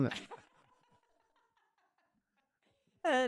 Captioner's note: laughing